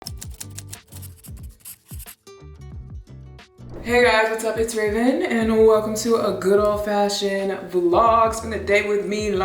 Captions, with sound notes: (typewriter clacking) (upbeat music) (pen scratching) - Hey guys, what's up? It's Raven and welcome to a good old-fashioned vlog. Spend the day with me,